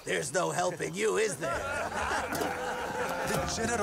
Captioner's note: they laugh